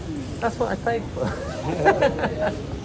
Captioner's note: laughs